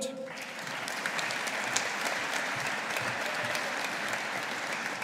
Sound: audience applauding

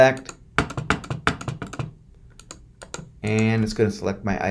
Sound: button clicking

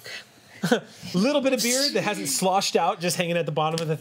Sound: laughs

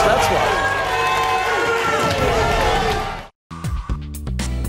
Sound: audience cheering

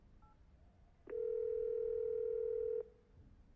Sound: dial tone

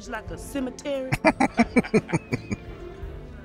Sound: laughing

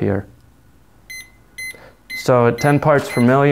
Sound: monitor beeps

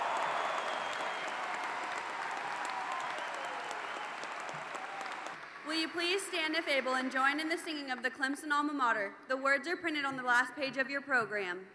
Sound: cheers and Applause

